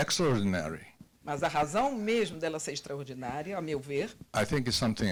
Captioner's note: translator speaking Portuguese